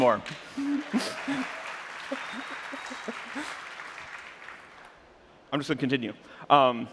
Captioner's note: applause